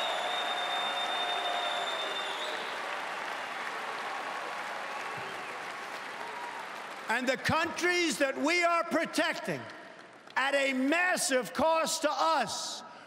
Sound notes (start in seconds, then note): 0.0 cheering and Applause